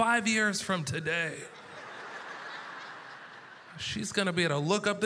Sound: audience laughter

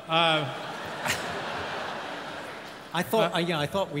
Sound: audience laughs

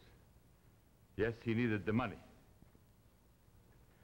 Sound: Charles' voice

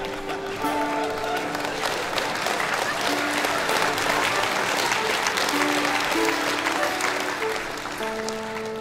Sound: applause

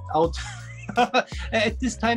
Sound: laughing

